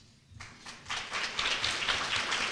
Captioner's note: applause